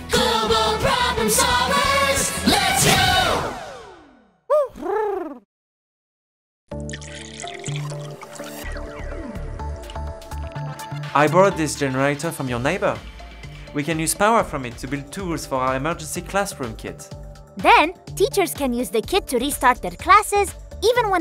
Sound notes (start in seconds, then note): 4.5 Huti hoots; 6.8 pouring